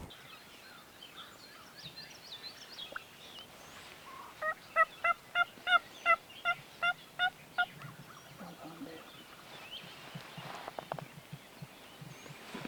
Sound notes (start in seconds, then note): 0.3 birds tweeting; 4.5 turkey call yelping; 8.6 hunter whispering; 9.8 birds tweeting